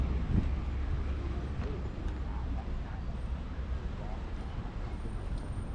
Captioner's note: street noise